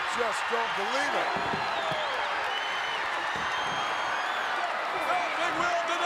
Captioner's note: applause